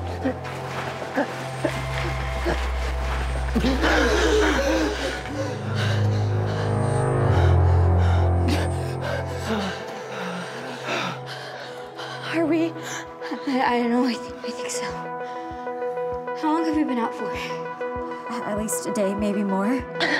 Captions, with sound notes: [ ALL: STIRRING, GASPS ] [ ALL GASP ] [ HEAVY BREATHING ] Are we - ? I don't know, I think so - How long have we been out for? At least a day, maybe more?